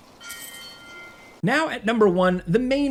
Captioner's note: coins clinking